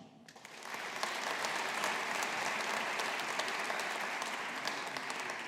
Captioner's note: audience applauding